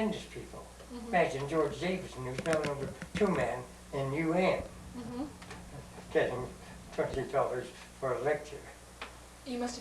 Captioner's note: laughs